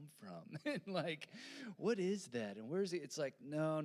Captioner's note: laughing